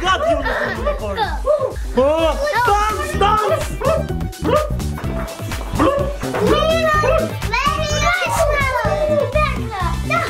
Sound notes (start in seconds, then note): 3.4 energetic music; 3.4 rainbow ghosts growling